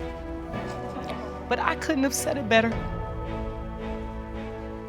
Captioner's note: voice breaks